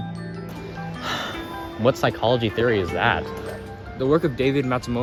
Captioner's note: sigh